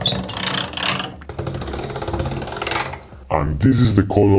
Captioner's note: machine whirring